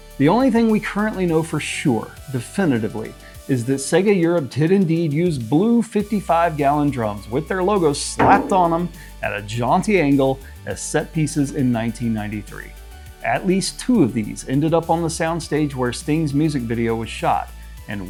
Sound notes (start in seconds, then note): 8.2 SFX: clang